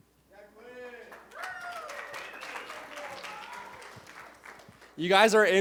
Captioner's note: cheers, applause